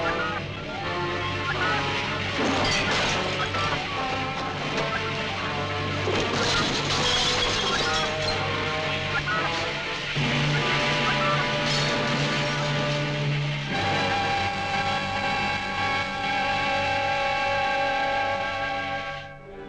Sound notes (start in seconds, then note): 2.3 objects clattering